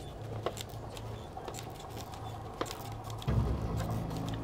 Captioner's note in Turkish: El arabası gıcırdama sesi; Müzik - Gerilim